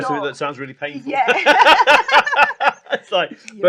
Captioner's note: laughs